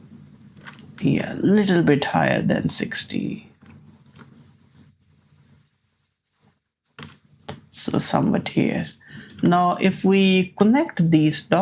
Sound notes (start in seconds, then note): none